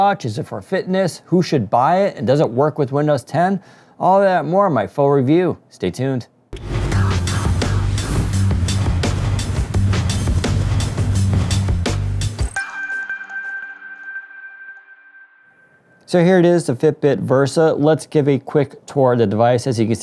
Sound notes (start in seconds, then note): 7.4 upbeat music; 12.5 gentle chiming